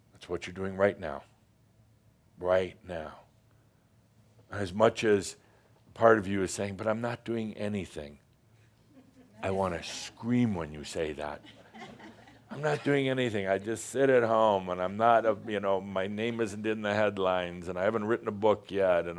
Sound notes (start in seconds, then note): 11.4 a few chuckles